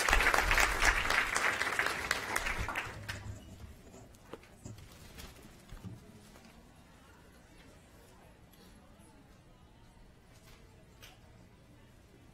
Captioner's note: applause